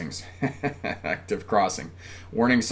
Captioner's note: laughs